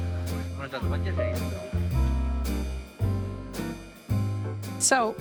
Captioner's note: chef speaking in foreign language